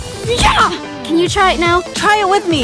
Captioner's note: yells out